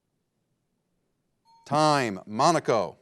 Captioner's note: bell dinging